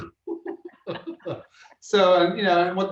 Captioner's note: laughs